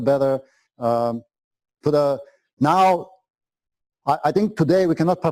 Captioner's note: pause